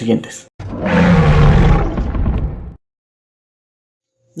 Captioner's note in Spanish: Rugido de Grimlock de Transformers Age of Extintion; Silencio